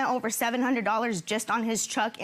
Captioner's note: none